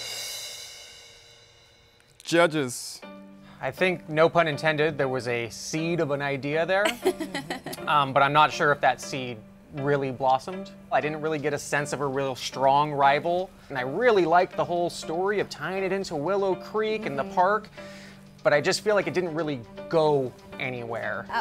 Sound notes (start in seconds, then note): 0.0 symbol hissing; 6.9 laughing